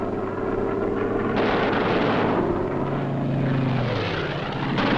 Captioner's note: booming